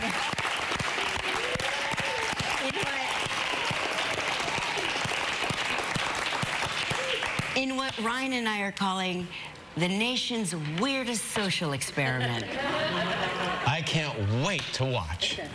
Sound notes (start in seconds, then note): 1.5 applause